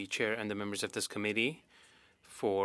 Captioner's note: speaking French